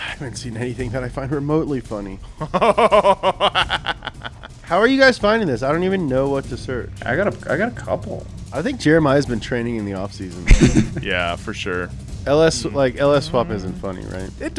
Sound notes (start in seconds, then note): 2.4 laughs